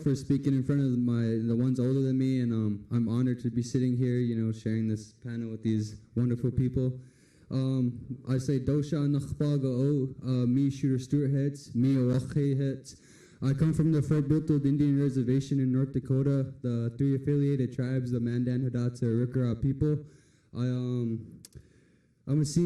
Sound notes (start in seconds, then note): 9.1 foreign language